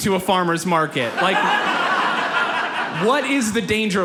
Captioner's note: audience laughs